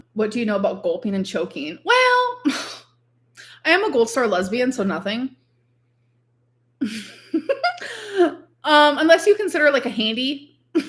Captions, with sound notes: - "What do you know about gulping and choking?" Well... I am a gold star lesbian, so nothing. (laughs) Unless you consider like a handy.